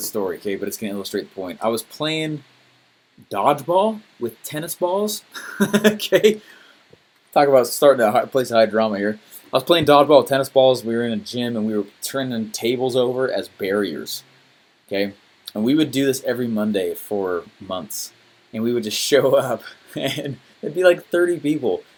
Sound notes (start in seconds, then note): 5.4 laughs